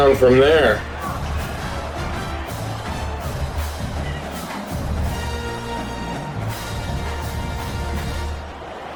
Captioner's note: crowd Noises